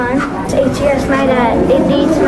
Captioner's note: excited murmuring